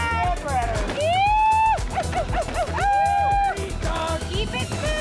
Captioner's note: woman cheering